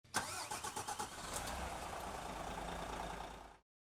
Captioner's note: motor engine starting